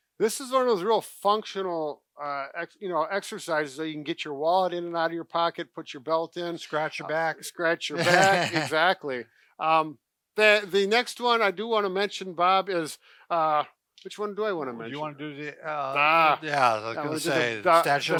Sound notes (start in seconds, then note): 8.0 laughing